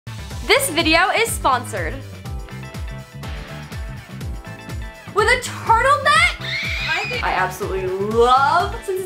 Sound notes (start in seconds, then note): 2.4 upbeat music; 6.2 screeching